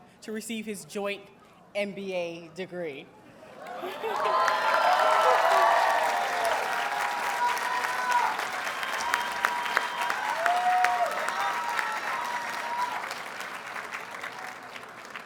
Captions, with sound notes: to receive his joint MBA degree. [Audience cheers and applauds]